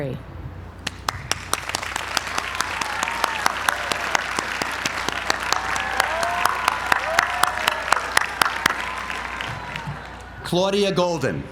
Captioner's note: applause